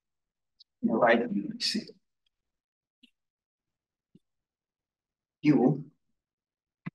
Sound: audio distorting

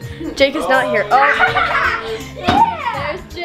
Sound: laughing

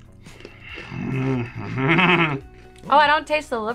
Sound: bread crunching; growling

